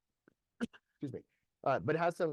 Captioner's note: coughs